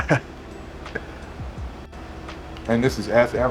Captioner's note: chuckles